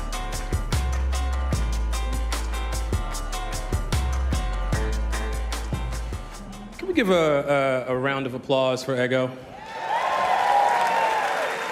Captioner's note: cheers and applause